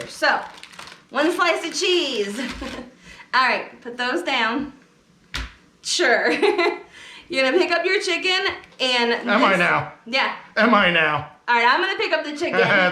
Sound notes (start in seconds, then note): 5.3 ingredients slapping on table